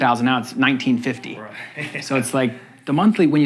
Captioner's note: laughing